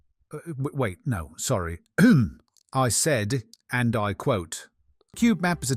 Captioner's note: ahem